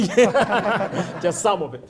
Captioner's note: laughter